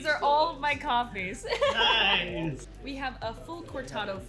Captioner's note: chuckles